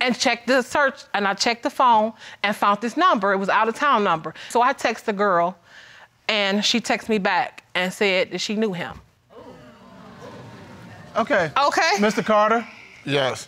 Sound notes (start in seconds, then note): 9.3 audience exclaiming; 12.3 sighs